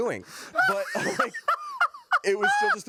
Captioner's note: laughing